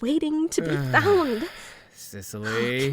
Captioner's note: sigh